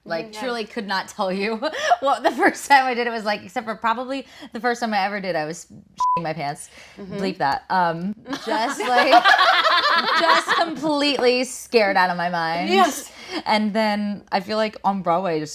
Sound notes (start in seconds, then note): 6.0 beep; 8.3 group laughing